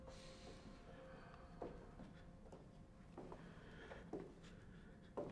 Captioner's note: footsteps approaching